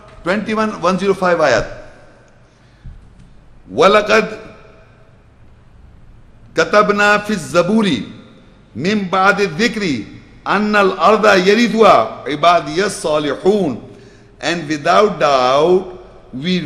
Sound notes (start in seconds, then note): 4.0 Arabic